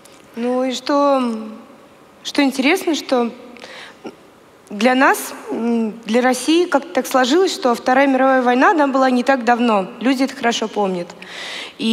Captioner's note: foreign Language